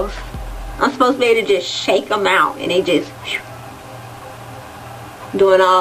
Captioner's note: makes whistling sound